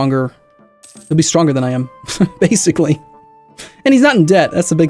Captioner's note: sensible chuckle